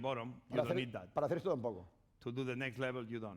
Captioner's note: speaking spanish